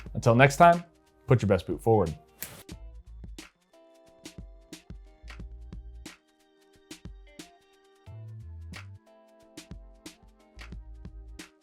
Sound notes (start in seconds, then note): 2.4 fingers snapping; 3.8 soft music